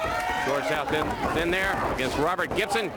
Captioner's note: crowd cheering